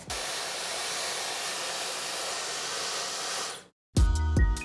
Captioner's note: blow dryer blowing; upbeat techno music